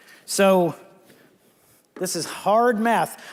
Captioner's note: none